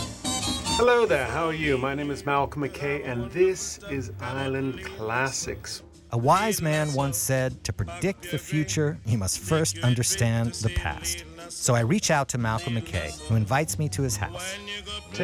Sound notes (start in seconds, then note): 5.7 voiceover